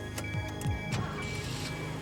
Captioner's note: car starting